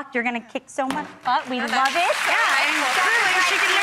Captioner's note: cheering and applause